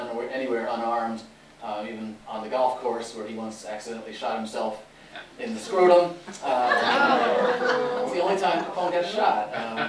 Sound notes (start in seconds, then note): 6.4 laughter